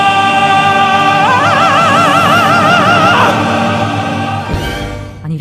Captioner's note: explosive shouting